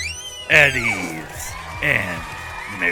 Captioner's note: crowd cheering